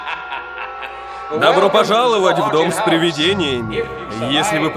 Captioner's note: echoing